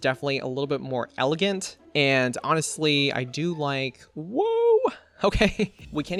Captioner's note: laughs